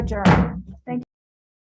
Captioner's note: gavel bangs